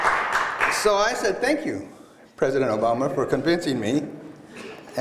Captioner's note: applause